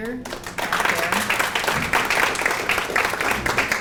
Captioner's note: applause